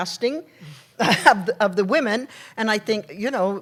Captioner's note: laughs